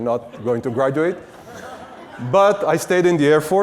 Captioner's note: audience laughs